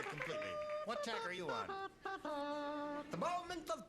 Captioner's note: imitates a trumpet